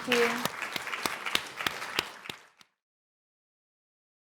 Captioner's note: audience applauding